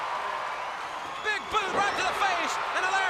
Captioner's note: crowd cheering